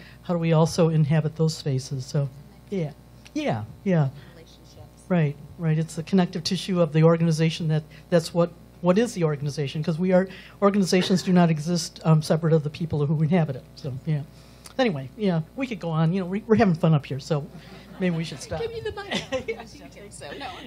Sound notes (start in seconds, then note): 17.6 laughter